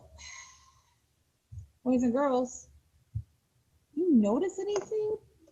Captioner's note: exhaling